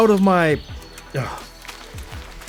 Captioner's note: sigh